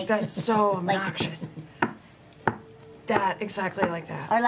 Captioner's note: knocks on table